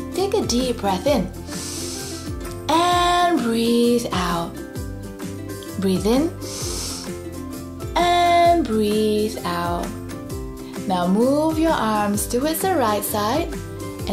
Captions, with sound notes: Take a deep breath in (breathes in deeply) and breathe out. Breathe in (breathes in deeply) and breathe out. Now move your arms towards the right side